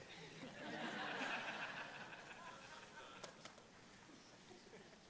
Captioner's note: laughter